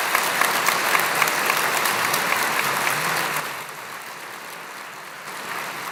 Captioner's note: applause